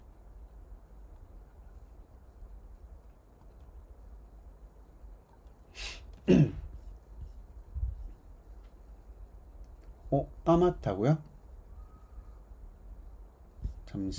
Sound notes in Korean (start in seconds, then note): 6.2 목을 가다듬음